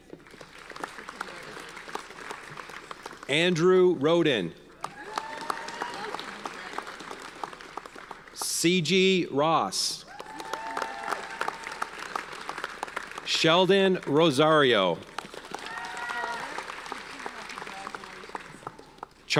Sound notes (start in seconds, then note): 0.0 audience applauds; 4.8 audience cheers and applauds; 10.0 audience cheers and applauds